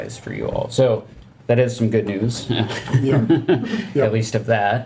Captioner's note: chuckling